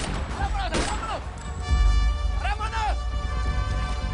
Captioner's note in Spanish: Disparos